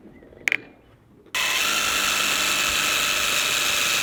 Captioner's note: drilling